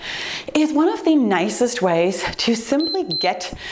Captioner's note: timer beep